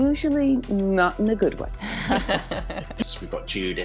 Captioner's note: everyone laughing